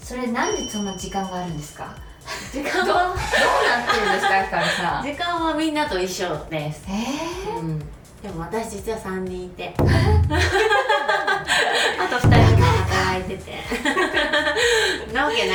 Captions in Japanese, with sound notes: それなんでそんな時間があるんですか? 時間はどうなってるんですか?ひさん。 [笑い] 時間はみんなと一緒です。 へえ。[息をのむ音] うん。 でも私実は3人いて、え、[笑い] あと2 人も働いてな。わけないんですけど。そう。いや、一緒なんですよ、時間はね。